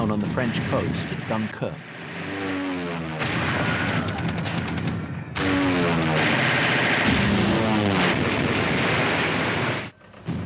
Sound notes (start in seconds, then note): 1.8 plane roaring; 3.3 gun roaring; 7.0 plane roaring; 7.2 explosion booms